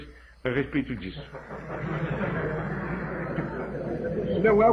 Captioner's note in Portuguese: risos